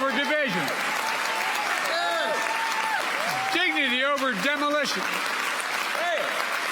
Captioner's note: applause